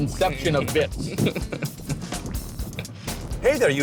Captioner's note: laughing